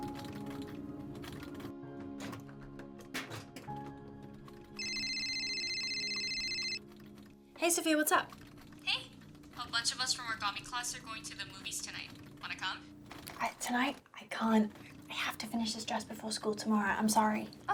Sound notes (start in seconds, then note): 4.7 phone ringing